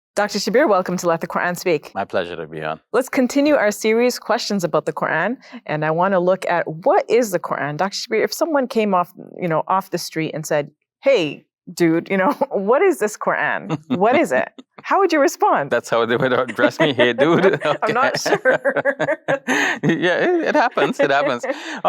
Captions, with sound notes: - Dr. Shabir, welcome to Let the Quran Speak. - My pleasure to be on. - Let's continue our series questions about the Quran. And I wanna look at what is the Quran? Dr. Shabir if someone came off the street and said, "Hey, dude what is this Quran? What is it?" How would you respond? - That's how they would address me here, "Hey, dude?" (both laugh) - I'm not sure. (both continue laughing) - Yeah, it happens, it happens.